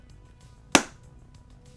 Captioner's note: notebook slapping